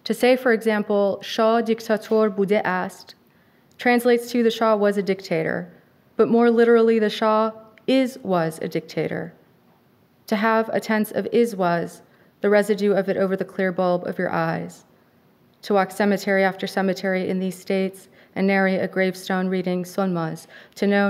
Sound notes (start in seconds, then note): 1.4 speaking a foreign language